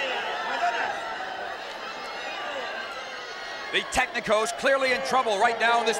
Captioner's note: applause